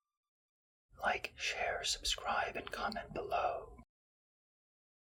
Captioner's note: whisper